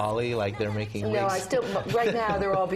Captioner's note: laugh